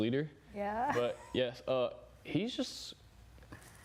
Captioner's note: laughing